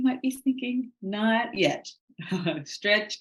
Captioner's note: chuckling